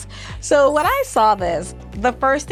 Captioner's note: chimes ringing